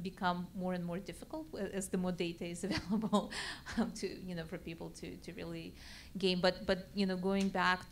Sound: laugh

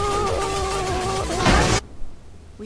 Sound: explosion

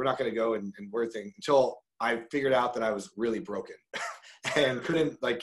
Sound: laughs

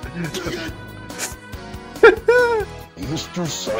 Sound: laughing uncontrollably

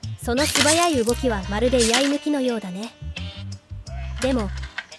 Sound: sword drawing

